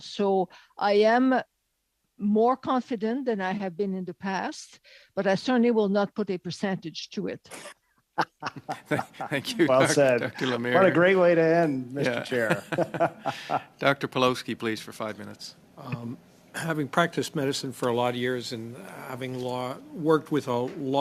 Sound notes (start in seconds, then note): 12.0 laughter